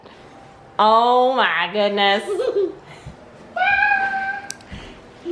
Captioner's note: laughs